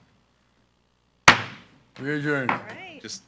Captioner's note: gavel banging